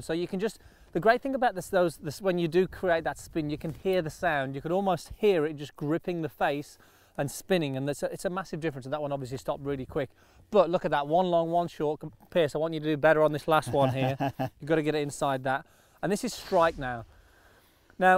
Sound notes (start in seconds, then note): 13.9 chuckling